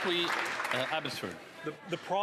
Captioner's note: applause